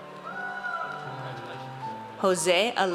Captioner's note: audience cheers